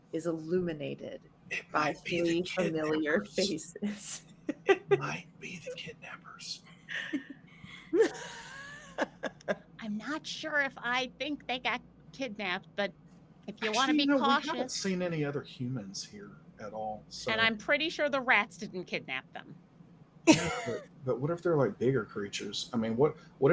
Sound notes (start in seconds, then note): 7.6 laughs